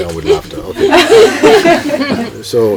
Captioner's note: laughter